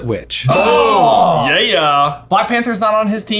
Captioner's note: groaning